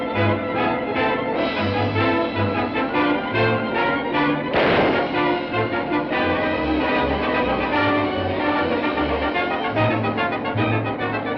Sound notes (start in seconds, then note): 4.5 gunshot; 6.1 suspenseful music